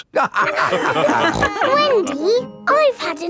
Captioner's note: all laughing